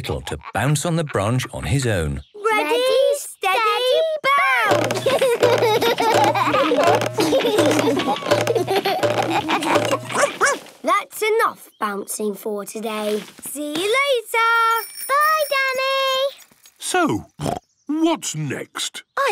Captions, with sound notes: to bounce on the branch on his own. - Ready, steady, bounce! (all laugh) (barks) - That's enough bouncing for today. See you later! - Bye Danny! - So, (snorts) what's next?